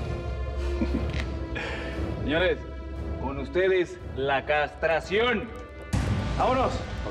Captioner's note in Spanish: risas